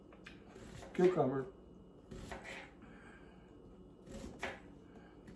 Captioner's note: knife slices